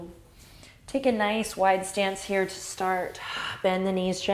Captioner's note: exhale